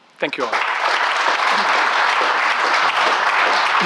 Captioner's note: claps